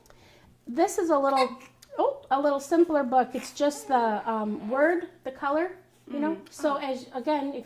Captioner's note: baby cries